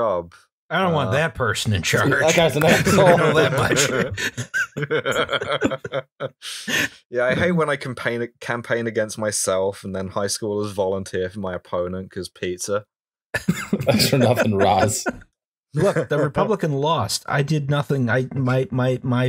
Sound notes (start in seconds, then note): 6.0 laughter; 13.3 laughter